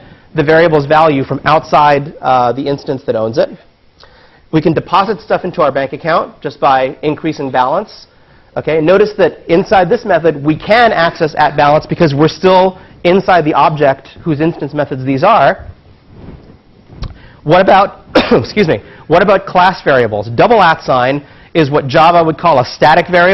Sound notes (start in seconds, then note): 18.1 cough